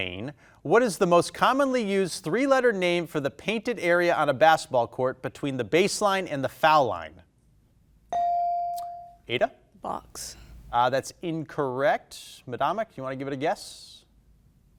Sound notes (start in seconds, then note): 8.1 bell dinging